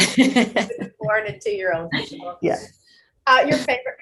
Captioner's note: laughing; murmuring